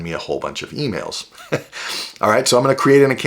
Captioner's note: chuckles